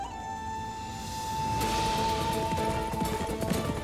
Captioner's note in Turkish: Nal sesleri